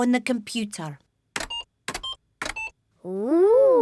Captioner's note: computer beeping